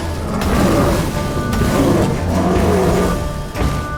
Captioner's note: thunderous boom; groaning